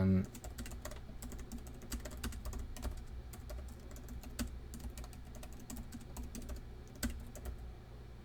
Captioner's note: typing; typing